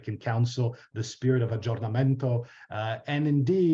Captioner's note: foreign language